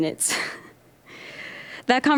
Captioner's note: nervous chuckling